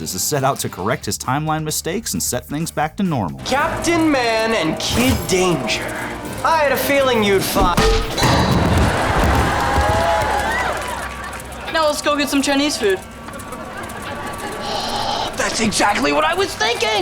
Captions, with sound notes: to correct his timeline mistaks and set things back to normal. Captain Man and Kid Danger, I had a feeling you'd fi-- Now, let's go get some Chinese food. [gasping] That's exactly what I was thinking.